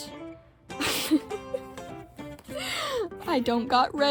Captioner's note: laughing